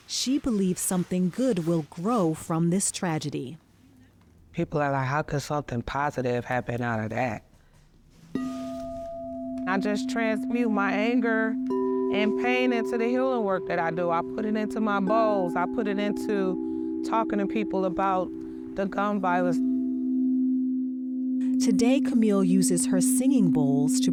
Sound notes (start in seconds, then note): 8.4 bowl resonates